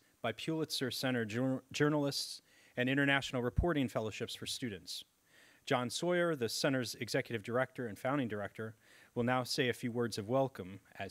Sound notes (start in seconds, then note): none